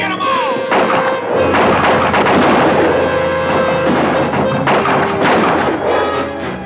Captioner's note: dramatic orchestral music; guns fire